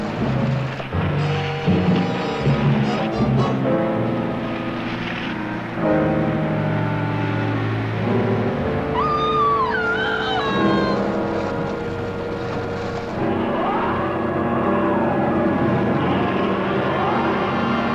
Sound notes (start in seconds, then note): 8.9 screaming; 12.6 creature roaring